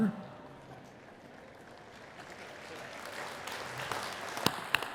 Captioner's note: attendees clapping